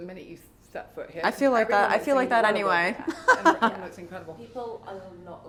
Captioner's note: chuckles